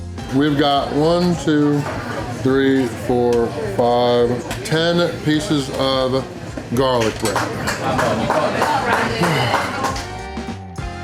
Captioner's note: crowd applause